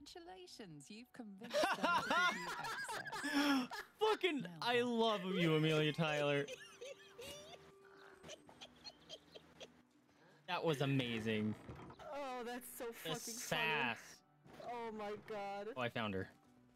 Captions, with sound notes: *both laughing* Flippin', I love you, Amelia Tyler! That was amazing The sass! Oh, I found her. *giggles* oh, that's so flubbin funny. Oh, my God.